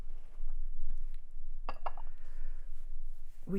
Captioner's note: tableware clacking